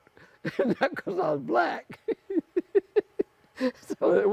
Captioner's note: laughing